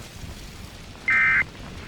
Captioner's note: ending tone